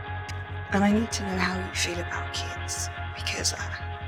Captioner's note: voiceover